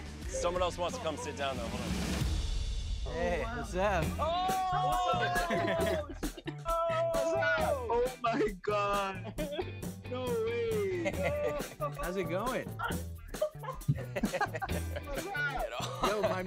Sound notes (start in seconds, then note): 6.2 all exclaiming; 12.9 laughing